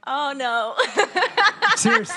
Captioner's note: laughs